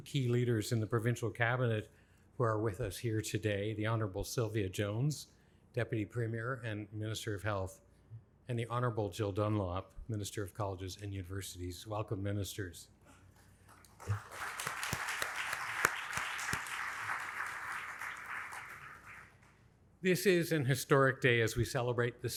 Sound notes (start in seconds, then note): 13.6 applauds; 13.7 audience applauding